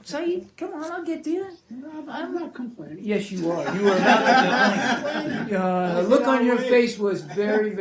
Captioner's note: laughter